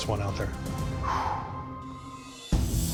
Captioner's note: exhales sharply